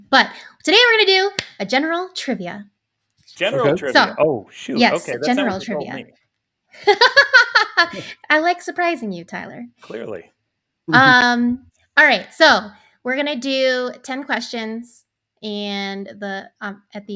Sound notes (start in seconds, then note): 6.8 laughing